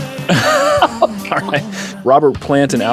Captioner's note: laughs; running out of air